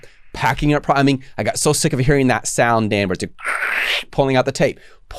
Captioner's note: mimicking tape sound